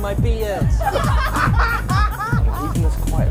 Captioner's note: laughter